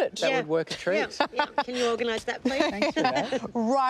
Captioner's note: laughs